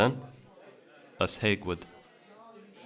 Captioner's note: Lushootseed language